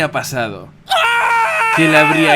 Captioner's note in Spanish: gritos